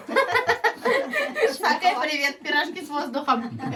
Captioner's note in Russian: смех